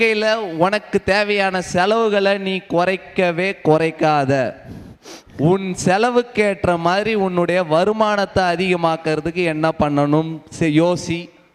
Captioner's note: speaks in tamil